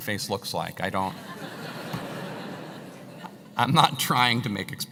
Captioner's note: laugh